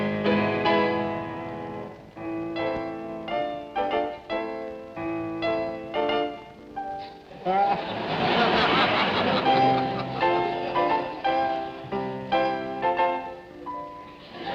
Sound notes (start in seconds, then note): 7.4 audience laughing; 9.7 piano concerto playing